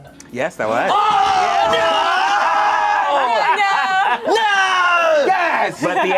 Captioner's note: overlapping chattering